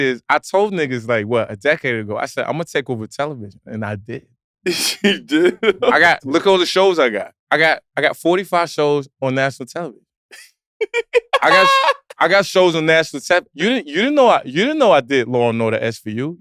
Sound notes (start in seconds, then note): 4.6 laughs